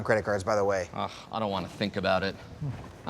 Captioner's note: groans